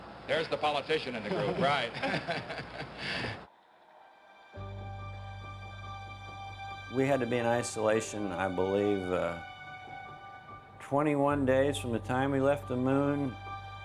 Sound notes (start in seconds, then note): 1.2 chuckling